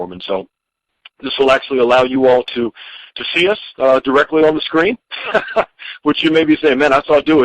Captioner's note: chuckling